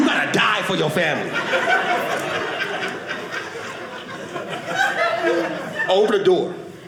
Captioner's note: audience laughing